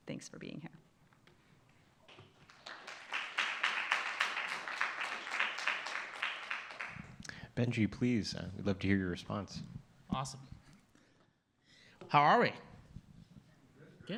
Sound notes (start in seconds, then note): 2.1 applause